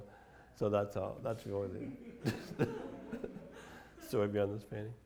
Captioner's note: laughs